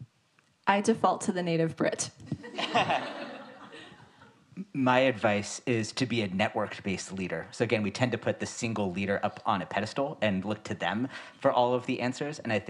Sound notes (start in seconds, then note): 2.5 audience laughs